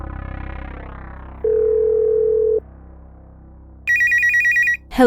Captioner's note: phone ringing